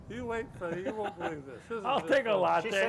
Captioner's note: laughs